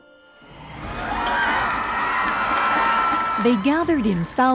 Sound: cheering

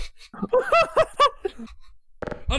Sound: laughter; laughing

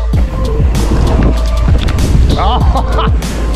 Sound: trap music plays; bike clatters; laughs

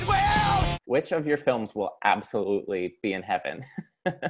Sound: laughs

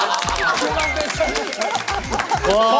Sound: applause of support

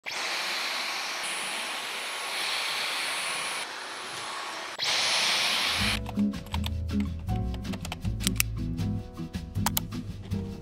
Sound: vacuum sounds

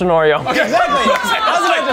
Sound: celebration music; exclaims

